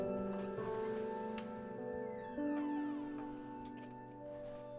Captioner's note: gentle orchestral music continues; door creaking